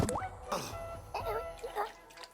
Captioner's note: gurgling sounds